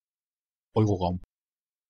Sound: fast Pronunciation

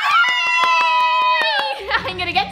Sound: clapping

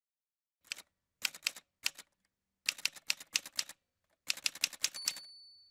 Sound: typewriter sounds

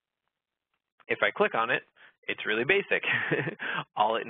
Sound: laughs

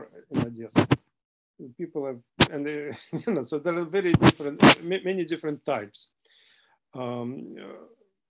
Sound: laughter

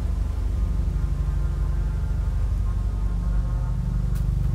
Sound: helicopter approaching

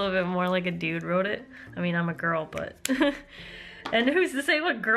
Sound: laughter

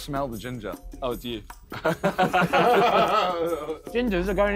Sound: all laughing

